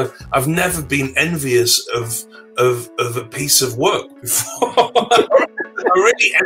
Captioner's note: laughs